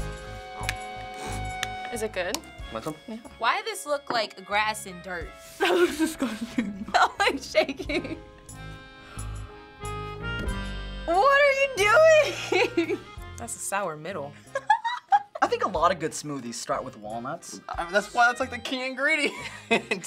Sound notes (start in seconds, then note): 5.6 laughing; 14.8 laughs; 19.8 laughing